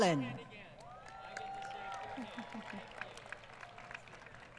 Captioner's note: applause